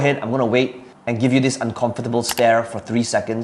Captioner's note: mouse clicking